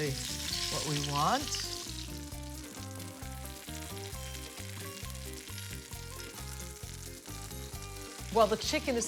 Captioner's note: chicken sizzles in the pan